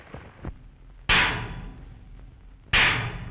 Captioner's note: clanging